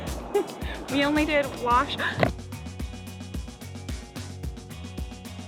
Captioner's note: gasps; enthusiastic music